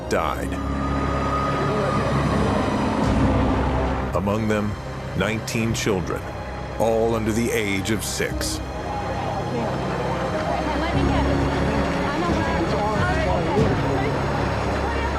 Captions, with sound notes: died, among them, 19 children, all under the age of six. [indistinct chatter]